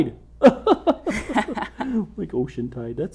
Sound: laughing

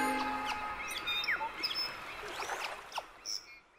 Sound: nature sounds; bird chirping

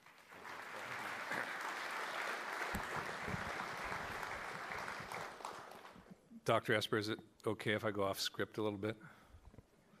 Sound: applauding

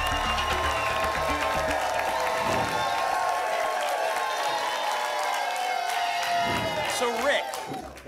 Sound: applause and cheering cont

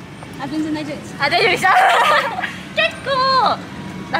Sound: laughs

